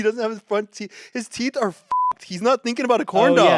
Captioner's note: beep